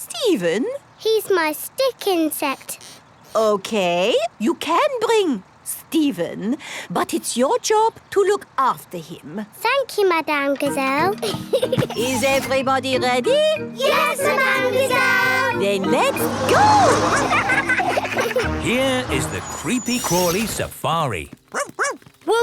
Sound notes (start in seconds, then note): 17.3 laughing